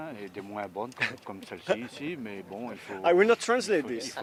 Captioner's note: laughing